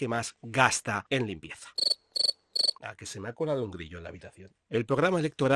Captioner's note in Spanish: sonido de grillos